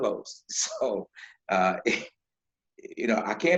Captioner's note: laughing